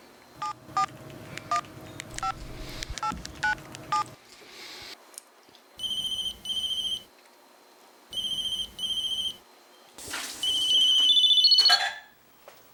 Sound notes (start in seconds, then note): 0.2 phone keys dialing; 5.4 phone ringing